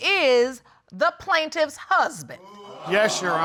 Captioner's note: audience exclaiming